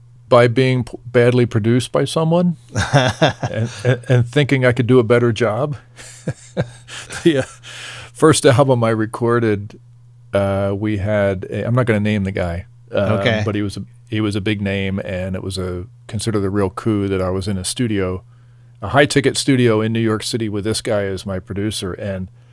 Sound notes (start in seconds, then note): 5.9 laughing